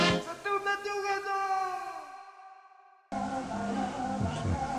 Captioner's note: man yelling gibberish